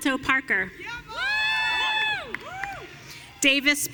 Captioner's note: audience cheering